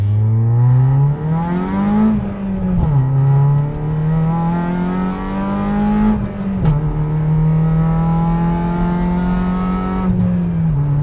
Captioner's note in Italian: rombo del motore